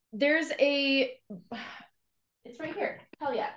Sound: sighs

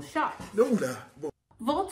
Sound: man speaks in foreign language

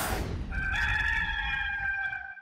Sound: cock crowing

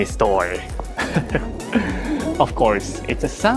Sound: chuckles

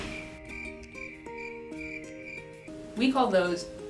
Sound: crickets

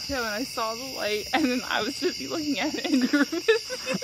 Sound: laughing

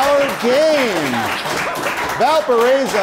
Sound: applause

